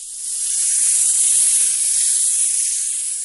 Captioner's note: hissing and rattling